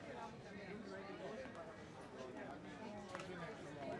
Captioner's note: people chattering